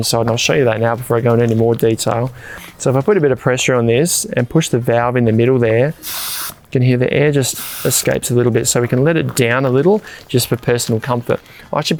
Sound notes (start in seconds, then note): 6.2 air whooshes